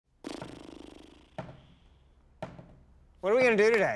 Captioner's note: tapping